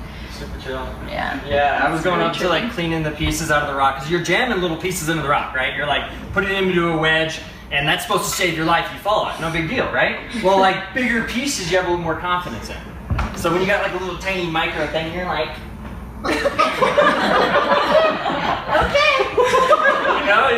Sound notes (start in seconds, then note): 10.3 laughs; 15.0 in a nasally voice; 16.2 everyone laughs; 18.7 high-pitched voice; 19.8 more laughter